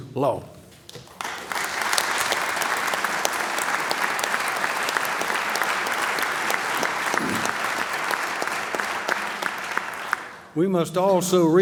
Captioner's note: applause